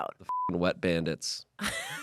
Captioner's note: beep